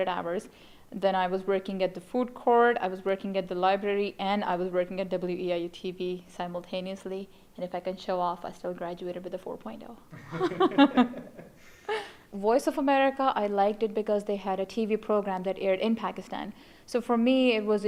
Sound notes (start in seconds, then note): 10.1 laugher